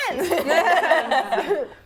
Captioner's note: laughing